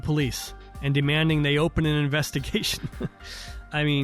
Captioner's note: laughter